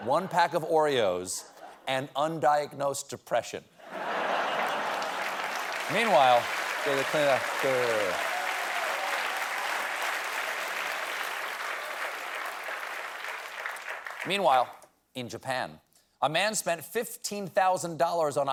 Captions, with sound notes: PACK OF OREOS, AND UNDIAGNOSED DEPRESSION. ( LAUGHTER ) ( APPLAUSE ) MEANWHILE, IN JAPAN, A "MAN SPENT $15K ON A HIGH-TECH DOG